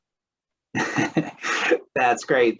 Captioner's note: laughs